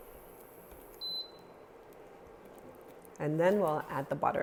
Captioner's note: burner beeping